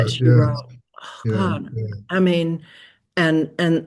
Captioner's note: sighs